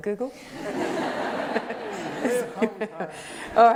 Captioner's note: laughter